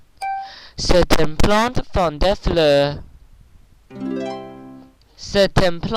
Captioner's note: French; repeating French